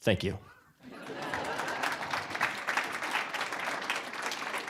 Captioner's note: audience laughing; applause